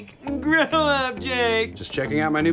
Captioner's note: in silly gina voice